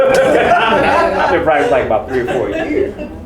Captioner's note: laughing